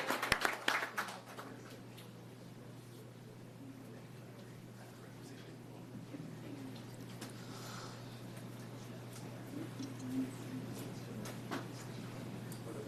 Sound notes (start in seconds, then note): 0.0 applause